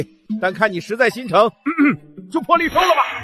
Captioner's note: cough